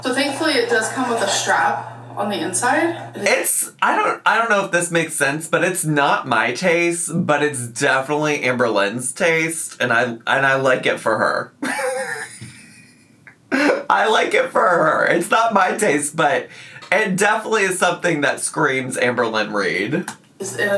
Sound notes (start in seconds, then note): 11.6 laughs